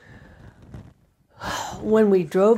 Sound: sighs

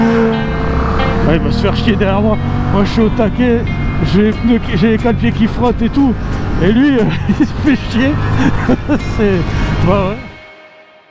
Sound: laughing

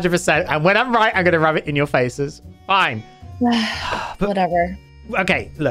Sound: sigh

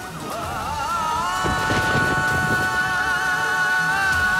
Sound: sombre music playing; thunder breaking

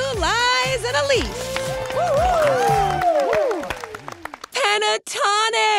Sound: group claps and cheers

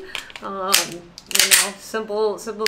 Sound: gun clicking sounds

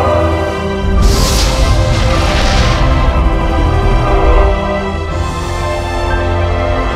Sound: woosh

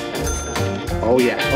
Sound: register dings

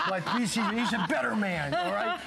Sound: laughter

